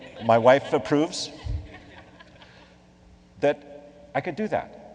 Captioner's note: laughing